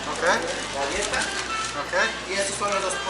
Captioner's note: speaking Spanish